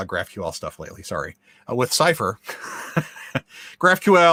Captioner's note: laughs